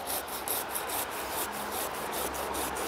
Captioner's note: traffic noise